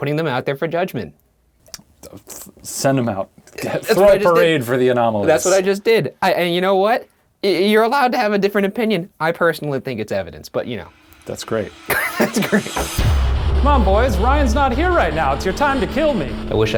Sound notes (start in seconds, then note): 11.9 laughs